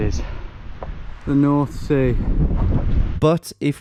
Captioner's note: wind blowing